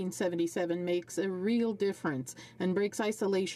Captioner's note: speaking French